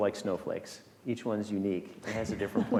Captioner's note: chuckling